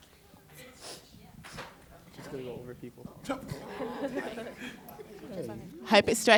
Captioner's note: chatter